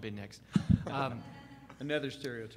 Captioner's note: laughing